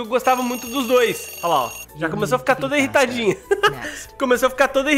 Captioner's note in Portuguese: risos